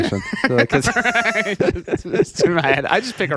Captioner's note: laughing